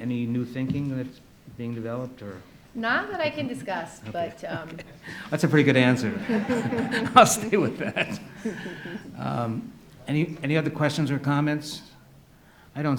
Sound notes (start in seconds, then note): 6.3 audience laughs